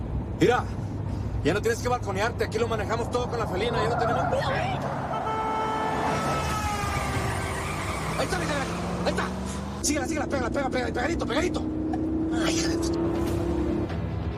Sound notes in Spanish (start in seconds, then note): 3.5 Chirrido de llantas; 5.0 Sonido de Claxon; 7.3 Chirrido de llantas